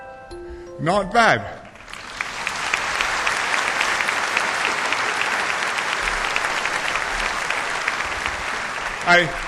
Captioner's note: applause